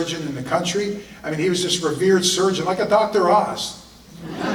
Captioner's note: audience laughter